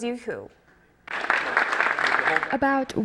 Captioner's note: applause